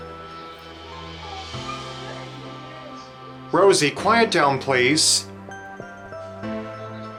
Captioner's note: Rosie whimpering